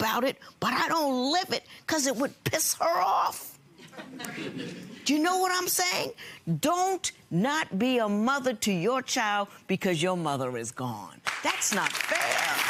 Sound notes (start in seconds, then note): 3.8 audience laughs; 11.4 audience applauds